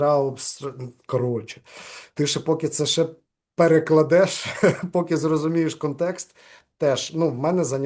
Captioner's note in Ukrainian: сміється